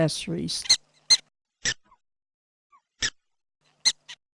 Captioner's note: gophers squeaking at each other